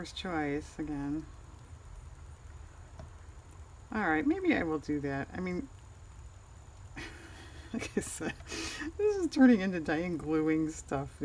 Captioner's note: laughs